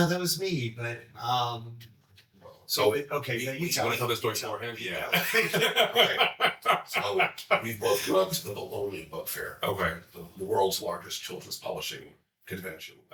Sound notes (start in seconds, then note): 5.0 chuckling